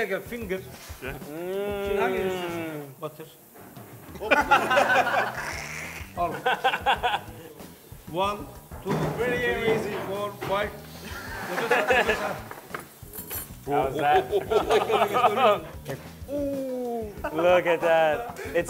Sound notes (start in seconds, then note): 0.2 speaking foreign language; 4.2 laughs; 10.9 sniffs; 11.0 laughs